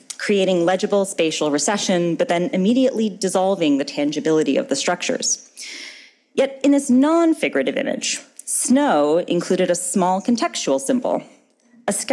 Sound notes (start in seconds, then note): none